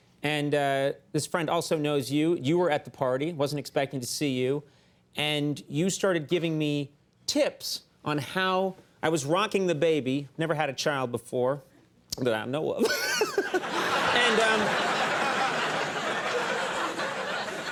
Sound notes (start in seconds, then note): 12.8 Conan laughing; 12.9 audience laughing